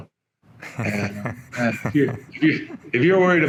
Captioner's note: hosts chuckling